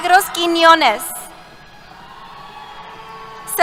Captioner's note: cheers